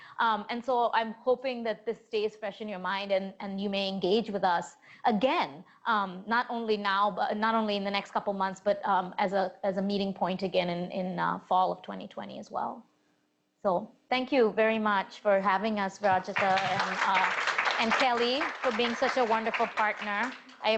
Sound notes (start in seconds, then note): 16.2 audience applauds